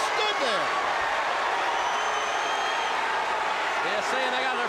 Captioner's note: crowd cheering